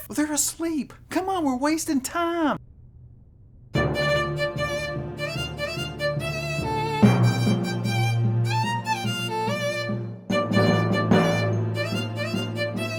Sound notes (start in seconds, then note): none